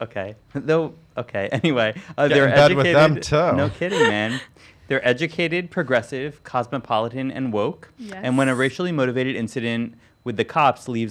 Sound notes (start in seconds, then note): 4.5 chuckles